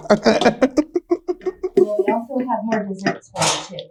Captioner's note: laughing